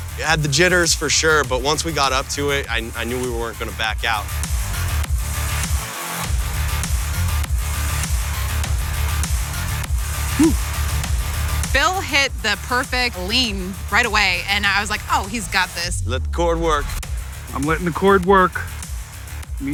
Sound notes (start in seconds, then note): 4.3 energetic rock music; 10.3 sighs